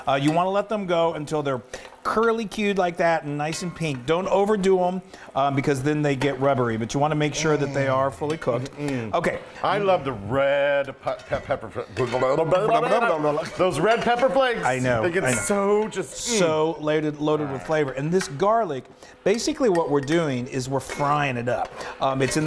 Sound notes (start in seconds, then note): 7.5 moaning; 11.7 both stuttering comically